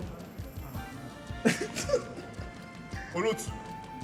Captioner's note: laughs